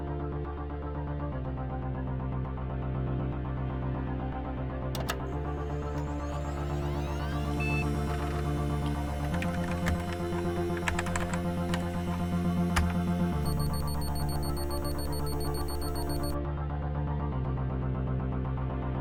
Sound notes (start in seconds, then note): 5.1 computer clicks and whirs; 7.7 computer bleeps; 9.5 keyboard clacks; 13.3 computer bleeps rapidly